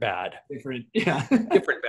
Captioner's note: laughs